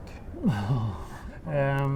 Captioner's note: sigh